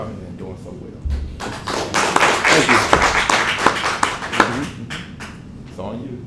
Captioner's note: applause